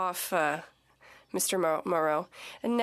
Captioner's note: speaking French